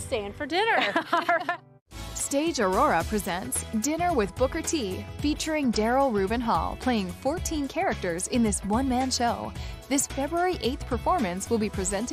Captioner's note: laughs